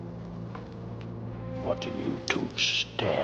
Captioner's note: none